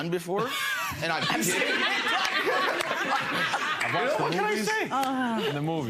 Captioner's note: audience laughs